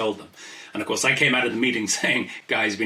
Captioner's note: laughs